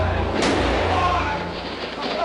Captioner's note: gunshot